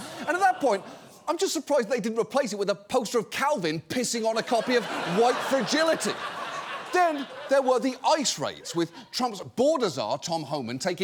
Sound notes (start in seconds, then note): 4.3 audience laughing